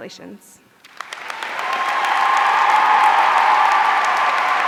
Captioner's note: audience cheering